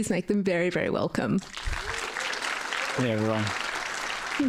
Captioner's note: applause